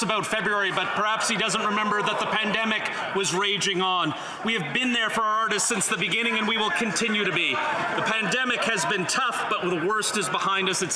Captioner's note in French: voix de l'interprète